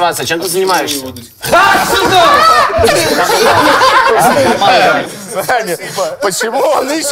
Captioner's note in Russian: все смеются